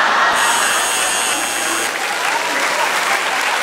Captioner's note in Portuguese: campainha